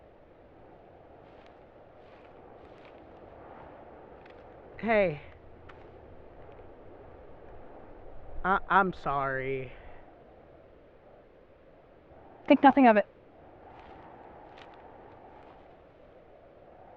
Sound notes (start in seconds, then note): 1.9 footsteps approach; 13.7 footsteps fade away